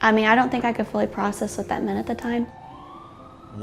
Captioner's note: sirens whaling